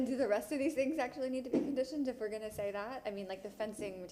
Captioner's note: laughs